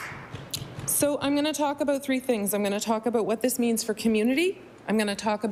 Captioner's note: applause